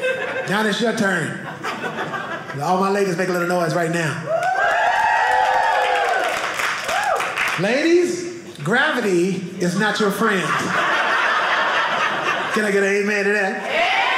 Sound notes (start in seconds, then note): 4.2 audience cheering; 11.8 audience laughing